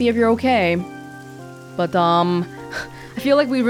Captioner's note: scoffs